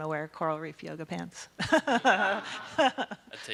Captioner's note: audience laughing